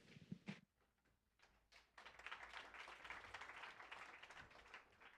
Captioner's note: applause